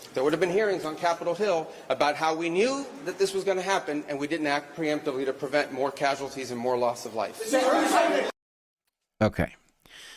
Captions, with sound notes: There would have been hearings on Capitol Hill about how we knew that this was gonna happen and we didn't act preemptively to prevent more casualties and more loss of life. (Crowd Yelling) Okay.